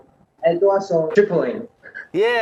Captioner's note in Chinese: 阿爾巴尼亞語